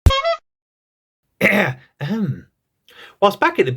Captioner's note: ahem